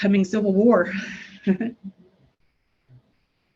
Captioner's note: laughs